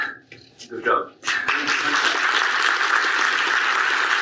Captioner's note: audience applauds